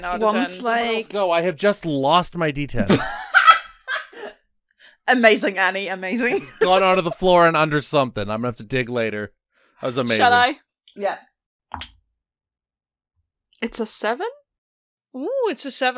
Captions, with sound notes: Someone else go; I have just lost my d10! [Laughter] Amazing, Annie. Amazing. It has gone on the floor and under something. I'm gonna have to dig later. That was amazing. Shall I? Yeah. [Dice clunks] It's a 7.